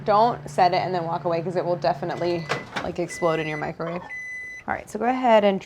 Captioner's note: microwave beeps